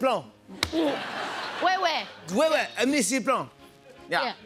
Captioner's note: speaking French